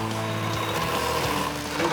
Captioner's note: saw whirring